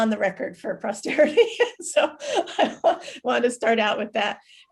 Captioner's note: laughs